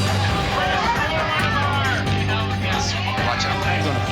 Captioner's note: patrons yelling